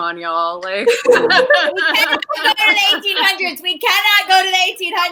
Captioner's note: laughing and talking over each other